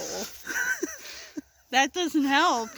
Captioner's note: laughter